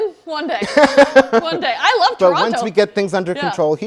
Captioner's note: laughs